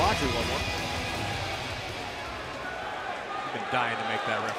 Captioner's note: crowd cheering